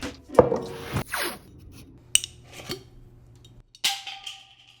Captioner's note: glass clattering